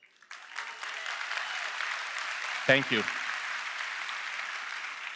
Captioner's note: applause